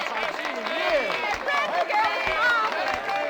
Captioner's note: crowd cheering